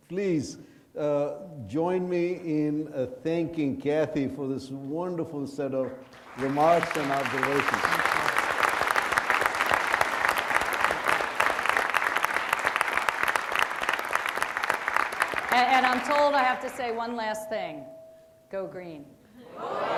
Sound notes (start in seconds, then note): 9.1 audience applauding